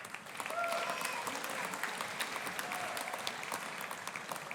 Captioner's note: audience applauding